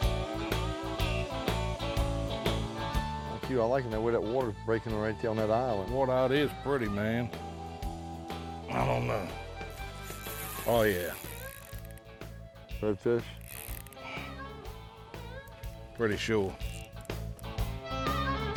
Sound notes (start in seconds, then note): 15.3 water splashing